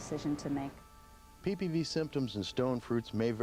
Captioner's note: voiceover